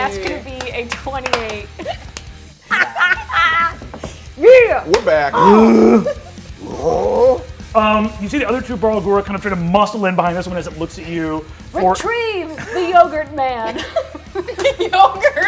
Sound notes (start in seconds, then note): 2.6 laughter; 5.3 grunts; 13.6 laughs; 13.6 laughter